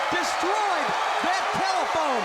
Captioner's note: crowd cheering